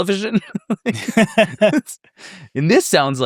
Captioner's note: laugh